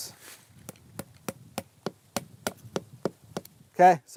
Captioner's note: hammering